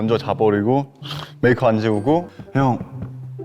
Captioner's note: zzz